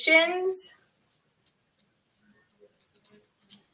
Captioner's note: tapping